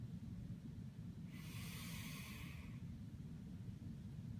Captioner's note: inhale